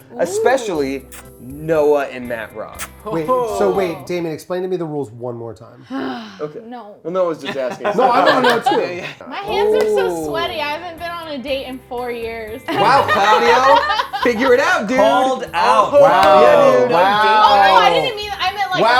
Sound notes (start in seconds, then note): 6.3 groans; 15.6 overlapping chatter